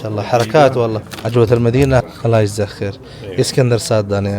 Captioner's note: Arabic